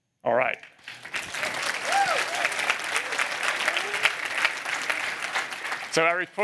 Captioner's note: applause